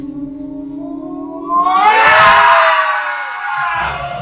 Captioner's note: yell